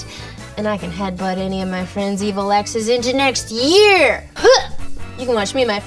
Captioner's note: grunts